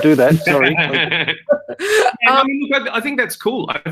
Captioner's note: laughter